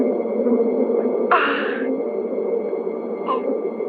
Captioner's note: sighs